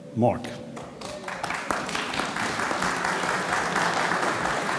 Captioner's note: audience applauds